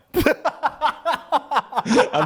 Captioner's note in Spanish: risas